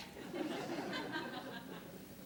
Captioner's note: laughter